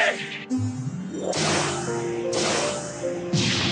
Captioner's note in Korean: 몬스터가 소환되는 소리; 폭발음